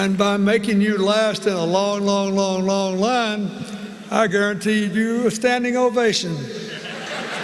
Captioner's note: laughter